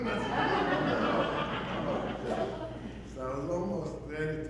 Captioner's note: audience laughing